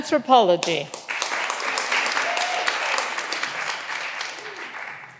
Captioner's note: all applauding